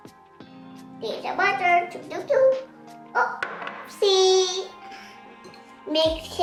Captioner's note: kid making some voice